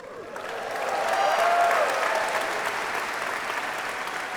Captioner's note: applause